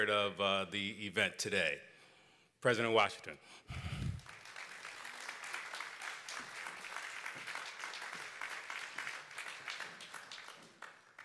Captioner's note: applause